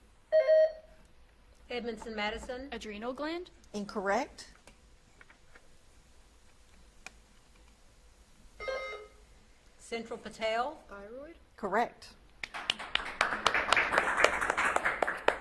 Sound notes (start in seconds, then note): 0.3 buzzer beeps; 8.6 buzzer beeps; 12.4 audience claps